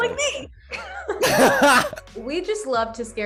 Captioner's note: laughs